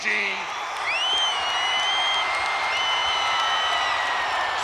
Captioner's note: crowd cheering